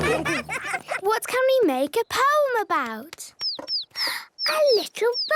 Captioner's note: bird tweeting